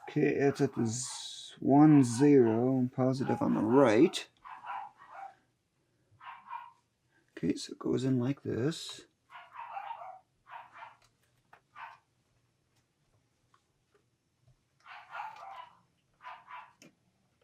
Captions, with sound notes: Okay, it's one zero positive on the right. Okay, so it goes in like this. (dog barks)